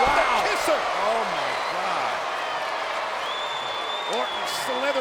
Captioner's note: crowd cheering